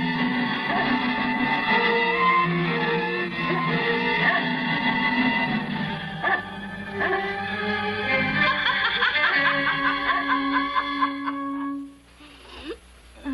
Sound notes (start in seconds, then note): 8.1 laughing